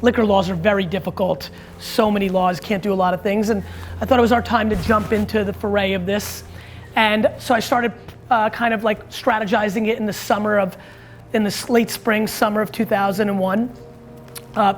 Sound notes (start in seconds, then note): none